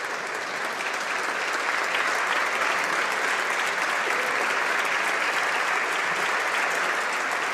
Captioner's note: applause